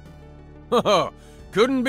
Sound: laughs

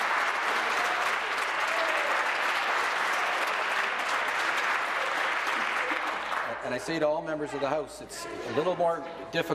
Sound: applause

